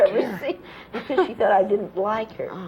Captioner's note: laughter